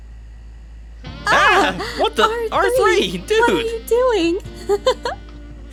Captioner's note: giggles